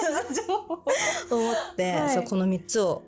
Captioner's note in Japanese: 笑い; 息をのむ音